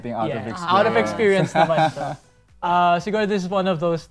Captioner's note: chuckles